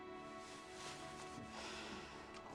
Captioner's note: sighing